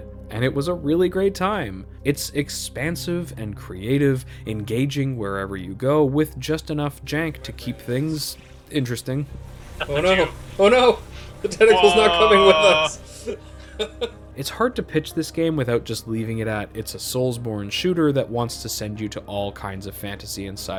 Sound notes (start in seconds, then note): 13.7 laughs